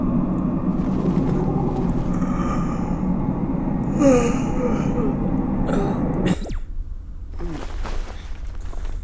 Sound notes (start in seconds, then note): 3.8 Yawns